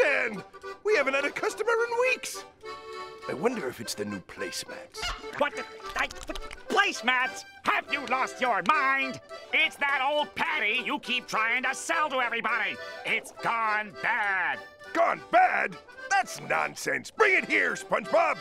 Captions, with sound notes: We haven't had a customer in weeks! I wonder if it's the new placemats? What? [stuttering] Placemats?! Have you lost your mind? It's that old Patty you keep trying to sell to everybody! It's gone bad. Gone bad? That's nonsense! Bring it here, SpongeBob.